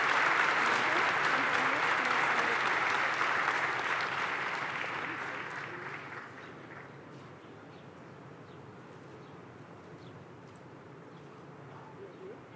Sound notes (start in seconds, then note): 0.0 cheers and applause